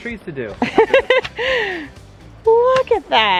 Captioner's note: laughs